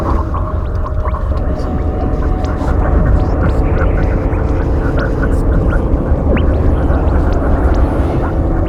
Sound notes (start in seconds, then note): 2.0 space sounds intensify